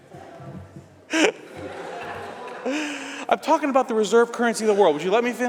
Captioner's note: laughter